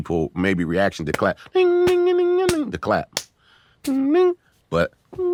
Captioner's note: humming